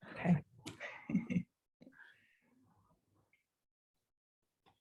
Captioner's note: both laugh